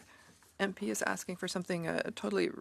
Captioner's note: speaking in French